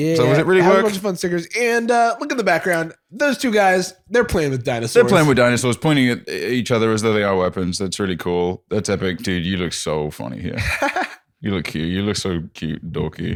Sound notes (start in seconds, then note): 10.6 laughs